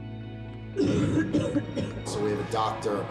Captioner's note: coughing